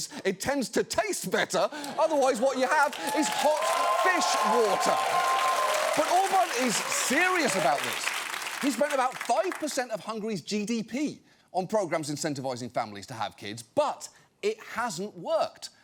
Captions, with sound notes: it tends to taste better. Otherwise, what you have is hot fish water. (AUDIENCE CHEERING, APPLAUDING) But Orbán is serious about this. He spent about five percent of Hungary's GDP on programs incentivizing families to have kids, but it hasn't worked.